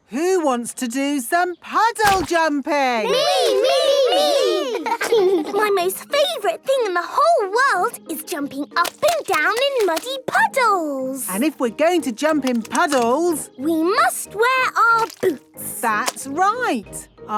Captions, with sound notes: Who wants to do some puddle jumping?! - Me, me, me! (laughing) - My most favourite thing in the whole world is jumping up and down in muddy puddles! - And if we're going to jump in puddles... - We must wear our boots! - That's right!